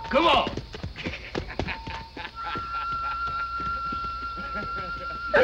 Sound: laughter

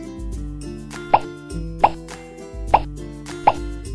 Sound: popping

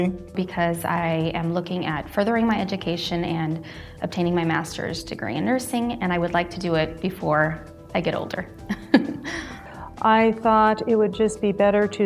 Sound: laughing

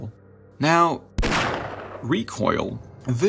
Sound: shot

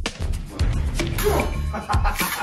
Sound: metal clang; delighted laugh

